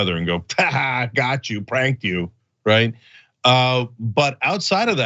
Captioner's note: laugh